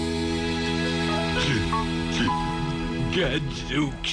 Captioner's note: crying